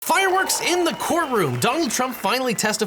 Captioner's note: crowd cheers